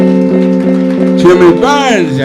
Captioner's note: audience applauding